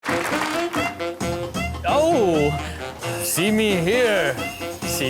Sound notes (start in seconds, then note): 0.0 applause; 0.0 jazz music